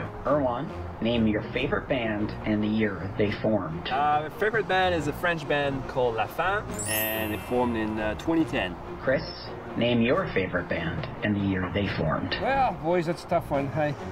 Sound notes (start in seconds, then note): 6.7 bell ringing; 9.1 on phone